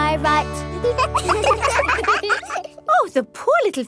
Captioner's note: children laugh